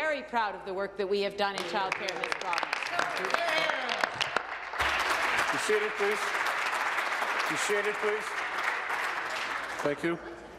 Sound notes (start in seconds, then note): 6.6 applause